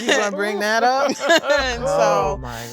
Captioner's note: women laughing